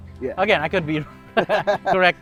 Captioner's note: laughs